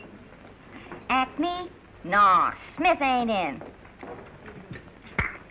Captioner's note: ghetto accent